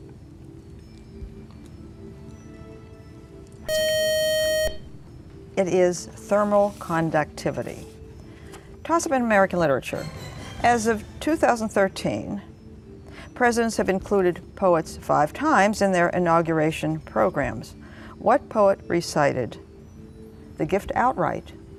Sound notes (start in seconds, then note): 3.7 buzzer